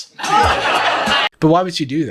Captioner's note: crowd laughs